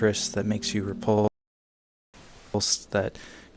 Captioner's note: speech glitches